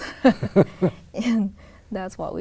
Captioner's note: laughs